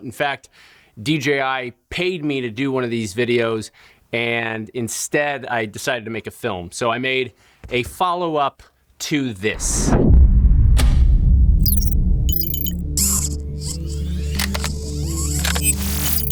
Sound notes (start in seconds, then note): 9.8 upbeat music; 12.2 robot beeping sound; 13.5 robot whirling sound; 16.0 robot beeping sound